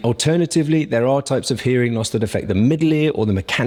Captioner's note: none